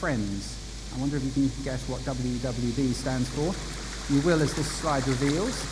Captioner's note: water noise